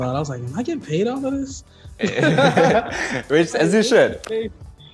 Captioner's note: laughs